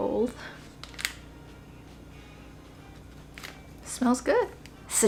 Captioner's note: paper crinkles